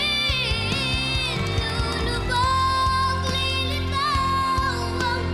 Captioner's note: loud cheering, applause